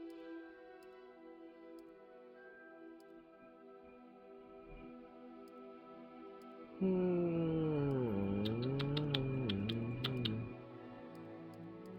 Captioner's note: weird noise and tongue clicking